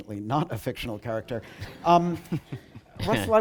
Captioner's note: laughter